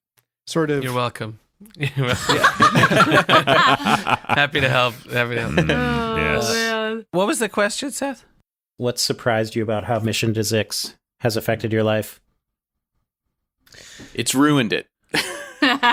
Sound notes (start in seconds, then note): 1.7 laughs